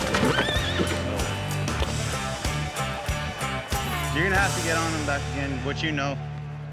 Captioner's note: neighs wildly